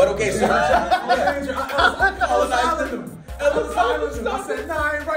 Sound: laugh

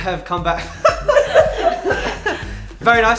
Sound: laughs

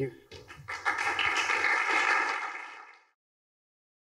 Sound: applause

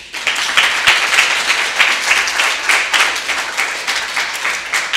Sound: audience applauding

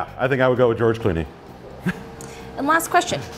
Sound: laughs

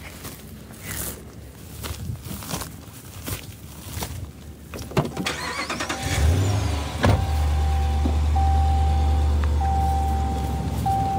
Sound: sounds of walking back to truck, starting, road noise

